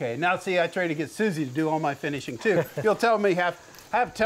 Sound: laughs

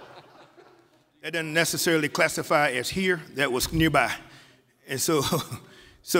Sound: laughter

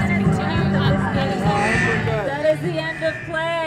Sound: buzzer goes off

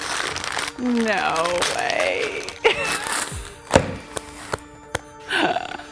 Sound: laughter

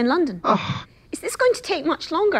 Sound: interviewer groans

